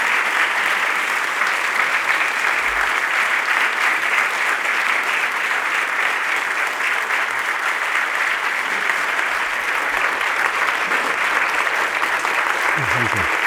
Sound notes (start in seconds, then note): 1.7 applause